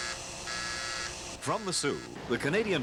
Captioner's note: buzzing